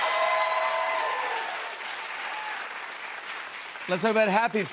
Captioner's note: cheers and applause